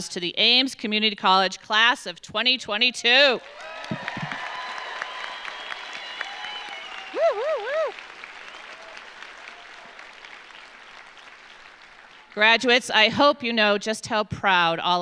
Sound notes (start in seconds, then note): 3.4 audience cheering; 3.4 audience applauding